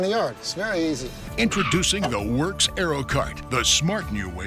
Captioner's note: voiceover